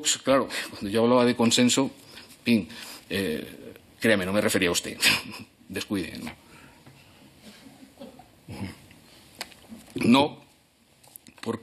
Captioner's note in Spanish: Risas